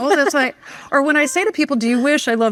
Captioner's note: laughing